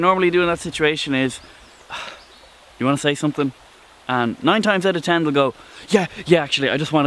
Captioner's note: sigh